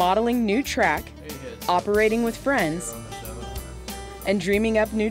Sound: men chatting

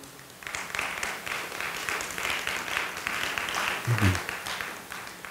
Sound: audience applauding

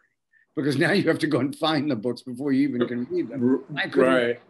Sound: chuckles

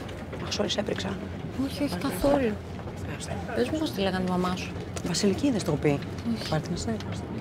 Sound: flight attendant and Vanina speaking foreign language

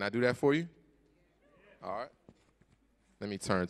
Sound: audience murmurs

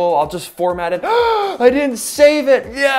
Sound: gasps

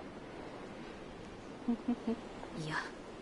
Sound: laughs

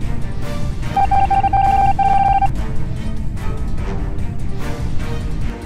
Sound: continuous dial tones

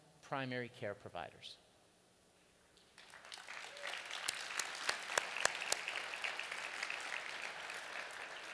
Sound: applause

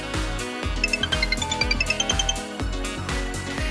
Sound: phone rings

